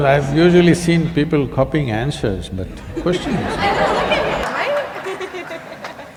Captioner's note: laughter